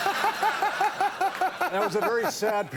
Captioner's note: audience laughing; Conan laughing